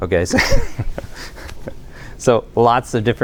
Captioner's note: laughter